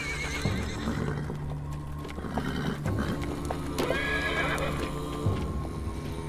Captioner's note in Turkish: At kişniyor